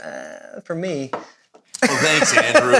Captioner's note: laughs